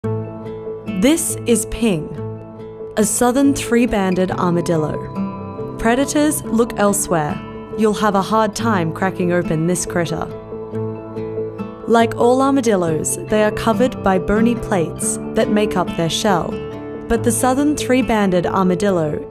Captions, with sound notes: - [Voiceover] This is Ping, a southern three-banded armadillo. Predators, look elsewhere. You'll have a hard time cracking open this critter. Like all armadillos, they are covered by bony plates that make up their shell. But the southern three-banded armadillo